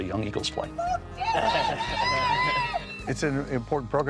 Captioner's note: shrieking